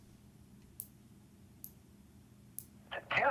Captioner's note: fingernail clipper clicks